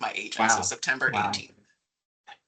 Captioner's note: laughing